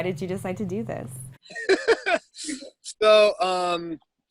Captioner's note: laughs